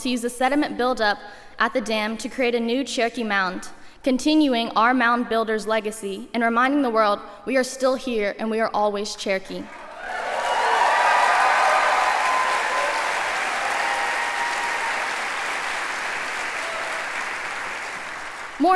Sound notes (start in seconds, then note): 13.2 cheering; 14.1 applause